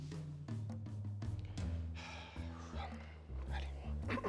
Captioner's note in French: soupir; raclement de gorge